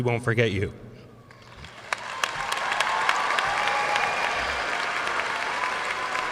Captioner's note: audience cheering and applauding